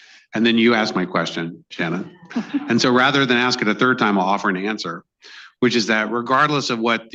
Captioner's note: laughter